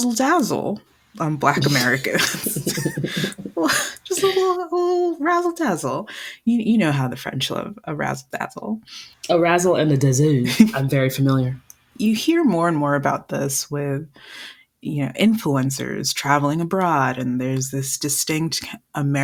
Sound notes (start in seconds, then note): 6.1 heavily accented